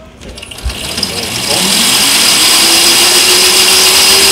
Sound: engine revving

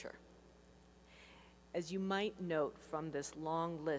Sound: none

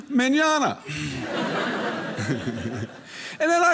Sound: audience laughing

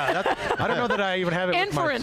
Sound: laughs

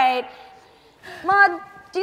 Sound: none

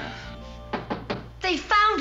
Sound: knock on door

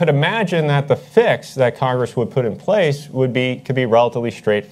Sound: none

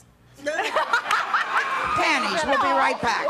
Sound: laughing

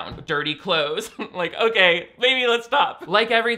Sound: laughs

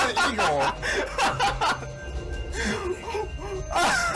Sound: is laughing

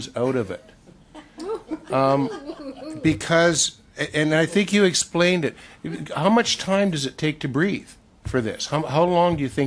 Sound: laughter

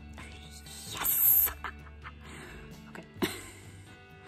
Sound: excitedly

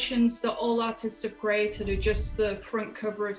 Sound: scene whooshing

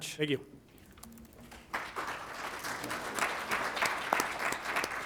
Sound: applause

